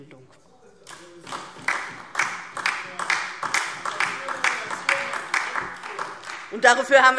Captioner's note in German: Beifall